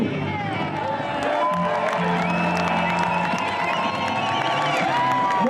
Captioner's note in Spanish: aplausos